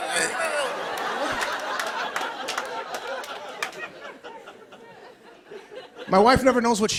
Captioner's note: laughter